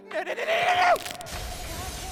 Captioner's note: death SFX; neck snap